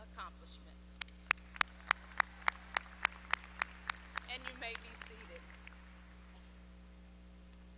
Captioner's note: applause